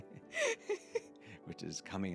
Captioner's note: laughter